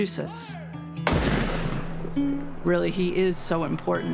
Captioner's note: gunshot